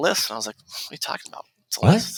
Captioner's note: scoffs